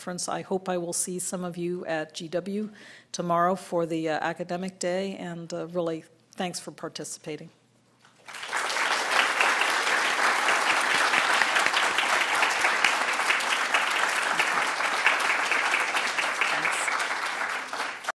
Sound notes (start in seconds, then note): 8.1 applause